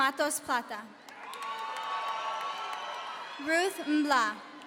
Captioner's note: audience cheering